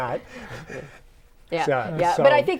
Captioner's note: laughing